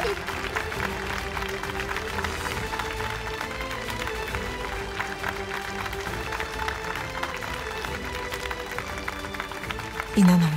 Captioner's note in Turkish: Alkış sesi